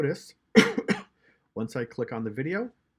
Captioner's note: coughing